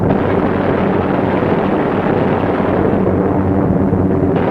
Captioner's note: gunfire sounding